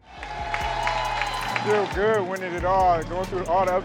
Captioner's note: students cheering